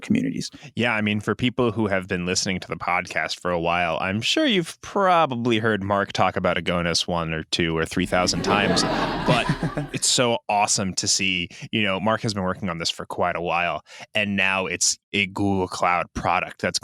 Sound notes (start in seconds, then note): 8.0 laughter; 8.0 laughs